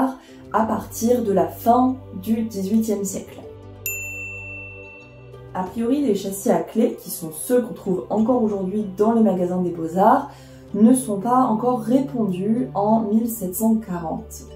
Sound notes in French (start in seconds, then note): 3.8 ding